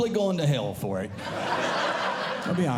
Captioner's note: audience Laughing